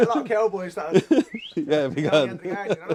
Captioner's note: whistles